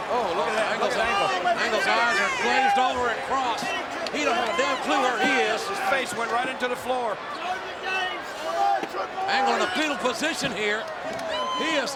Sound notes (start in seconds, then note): 7.7 crowd shouting